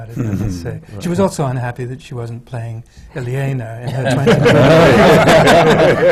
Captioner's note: laughter